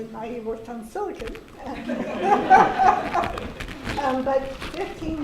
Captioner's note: laughter